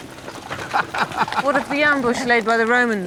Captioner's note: laughs